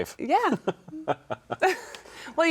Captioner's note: laughing